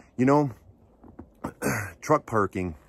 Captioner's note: clears throat